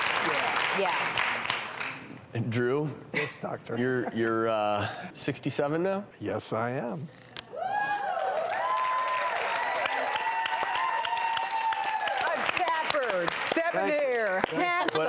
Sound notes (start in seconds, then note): 0.0 applause; 7.6 audience cheers